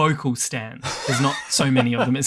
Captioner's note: laughs